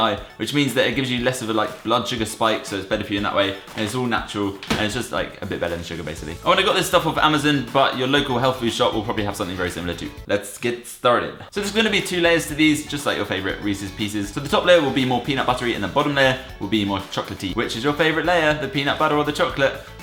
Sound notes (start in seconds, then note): 10.1 American accent; 11.5 regular voice